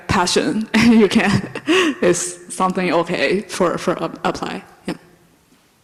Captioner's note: laughs